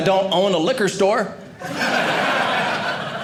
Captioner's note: audience laughing